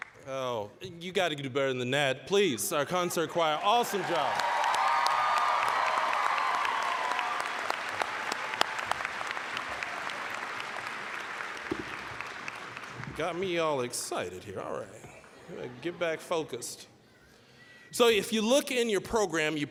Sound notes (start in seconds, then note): 3.4 applause, cheering; 9.7 applause; 15.3 audience laughing